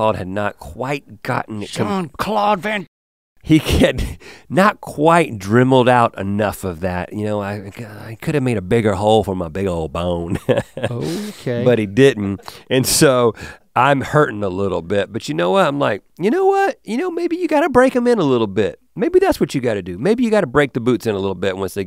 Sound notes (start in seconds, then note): 3.6 chuckles; 10.2 chuckles